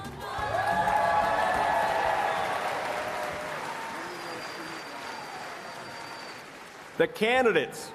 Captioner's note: applause and Cheering